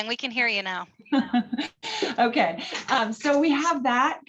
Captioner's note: chuckles